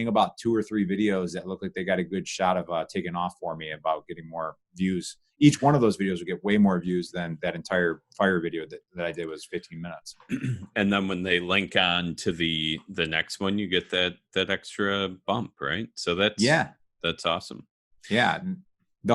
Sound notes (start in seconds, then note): 10.2 clearing voice